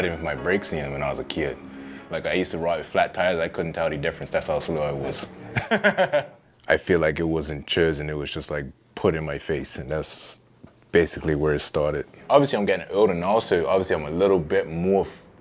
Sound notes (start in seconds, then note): 0.0 rap music fades out; 5.4 laughs